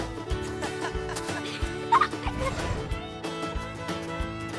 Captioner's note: both laughing